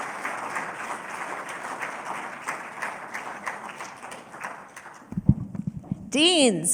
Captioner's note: applause